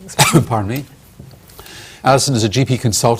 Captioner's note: coughs